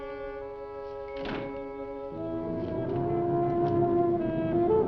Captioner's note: slow dramatic music; door thudding; slow dramatic music